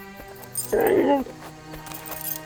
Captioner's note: grunting